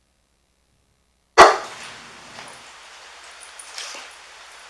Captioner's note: dog barking